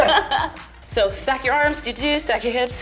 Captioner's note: laughs